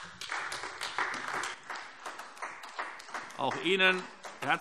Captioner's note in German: Beifall AfD